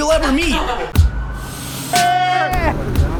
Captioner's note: upbeat music; laughs